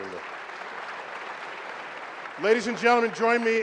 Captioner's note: applause